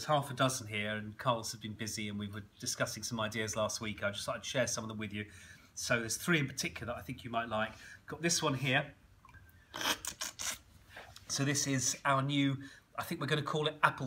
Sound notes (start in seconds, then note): 9.7 slurping